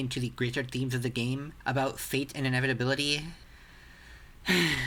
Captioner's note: sigh